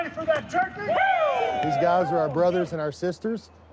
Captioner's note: firefighters shouting